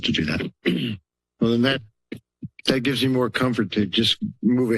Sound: clears throat

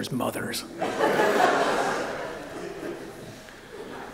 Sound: laughter

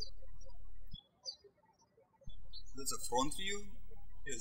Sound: birds chirping

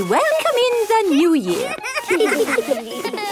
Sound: laughter

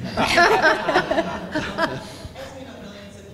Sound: audience laughs

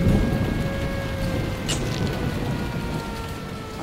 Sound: sirens

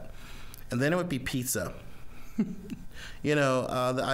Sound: chuckling

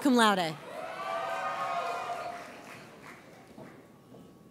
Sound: audience cheers

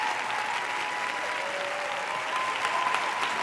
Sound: cheers and applause

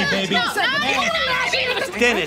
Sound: shouting

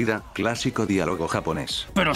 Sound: in Japanese: "When did you become so boring?"

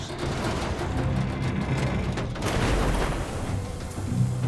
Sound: tank metal creaking; dramatic ominous instrumental music

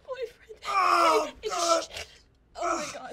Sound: Ray groaning

